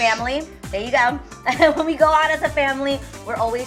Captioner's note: laughs